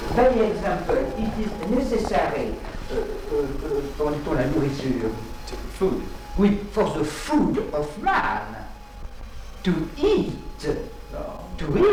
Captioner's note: animals